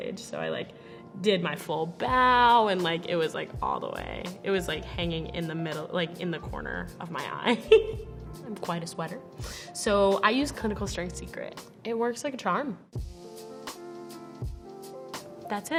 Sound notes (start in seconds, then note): 7.4 laughing; 12.9 upbeat music